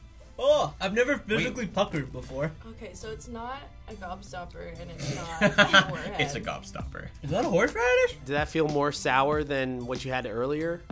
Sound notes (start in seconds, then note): 4.9 snorts; 5.1 chuckles